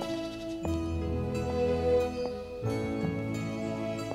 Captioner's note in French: claquement talons sur la pierre